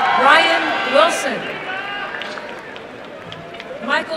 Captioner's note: applause and cheering